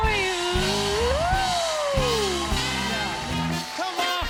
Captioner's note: cheers and applause